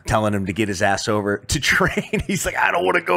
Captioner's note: laughs